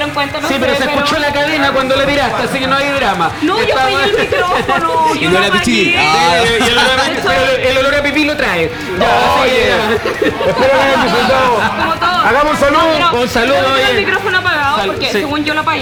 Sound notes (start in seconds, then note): 9.1 laughs